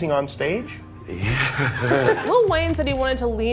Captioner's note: laughs